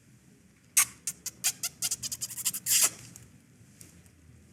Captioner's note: kissing noises